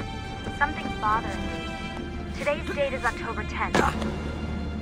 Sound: Lucy through radio

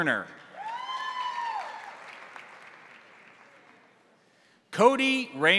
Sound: crowd cheering; crowd applauding

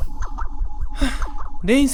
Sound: sigh

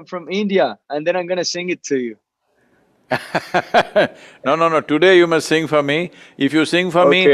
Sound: Sadhguru laughs

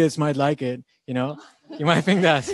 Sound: laughing

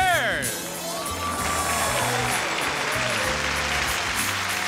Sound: audience oohing

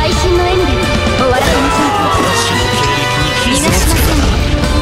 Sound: death scream

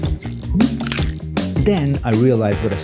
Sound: heart cracking

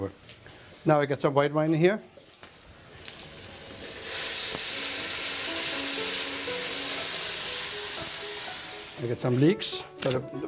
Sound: sizzling

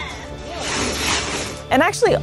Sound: background chatter; background music; sound of sea otter moving around a pile of ice cubes

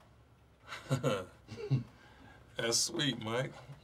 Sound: chuckles

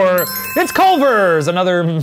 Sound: bell ringing

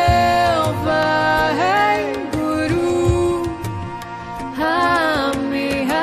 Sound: chanting in foreign language

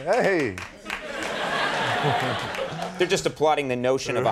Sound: audience laughing; The Rock chuckles

